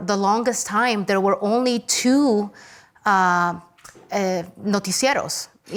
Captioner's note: speaks Spanish